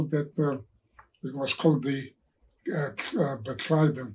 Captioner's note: speaking in foreign language